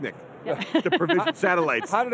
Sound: laughs

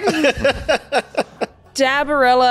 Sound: laughs

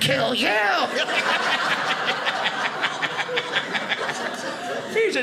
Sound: audience laughing

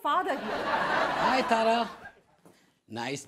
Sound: audience laughs

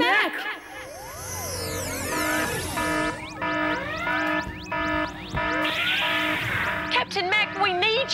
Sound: alarm!

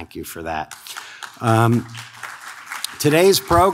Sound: audience claps

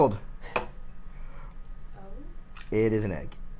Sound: cracks egg

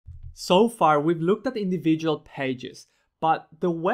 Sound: voiceover

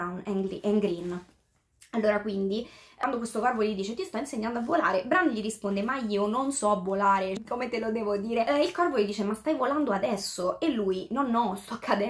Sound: translating in italian

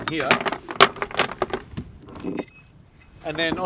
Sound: metal clanking

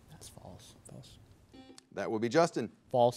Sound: bell rings

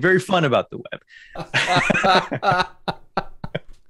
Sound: laughter

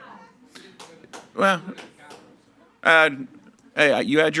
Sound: faintly speaking

